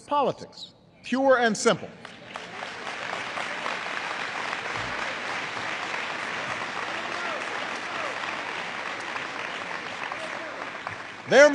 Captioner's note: applause